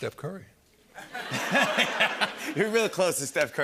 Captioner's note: laughter